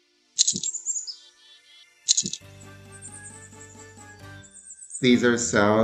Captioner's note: birds chirping; bell jingles